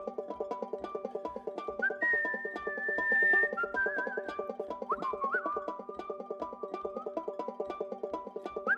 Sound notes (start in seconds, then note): 1.7 whistling